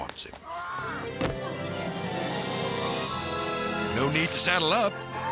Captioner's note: romantic music; farmer screams